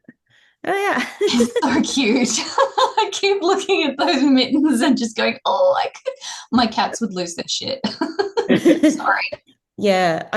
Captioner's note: laughs